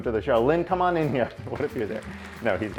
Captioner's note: crowd audience